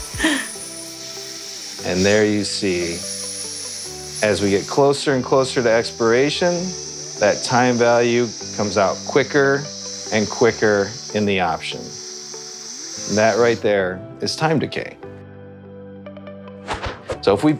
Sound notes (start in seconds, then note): 0.1 giggling; 1.8 air hissing; 16.7 air whooshing